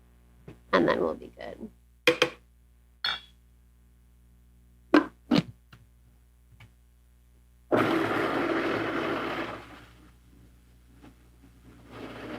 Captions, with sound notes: and then we'll be good. (food processor grinding)